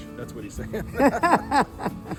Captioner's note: both laughing